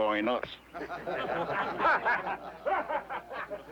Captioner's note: all chuckling